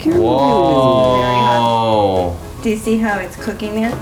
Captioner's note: exclaiming in excitement